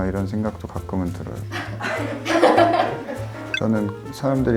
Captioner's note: production staff are laughing